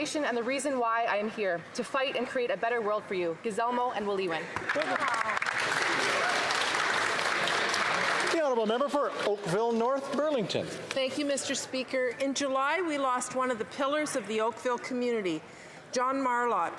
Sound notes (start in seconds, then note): 8.9 some Applause